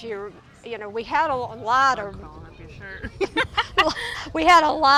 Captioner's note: laughs